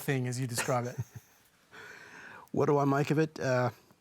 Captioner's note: chuckles